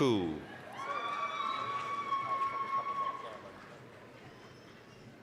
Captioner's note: applause, cheering